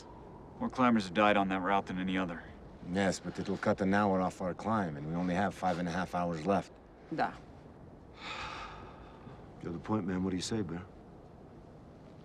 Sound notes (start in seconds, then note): 8.1 sighs